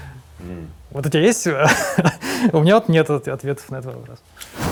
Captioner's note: laughs